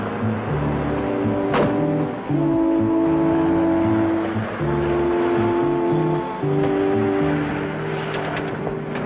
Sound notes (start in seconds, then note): 1.5 door thuds close; 5.4 suspenseful music